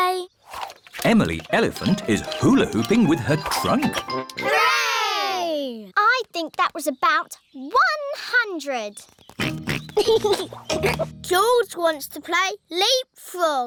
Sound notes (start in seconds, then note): 9.4 oinks and giggles